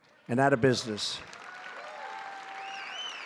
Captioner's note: applause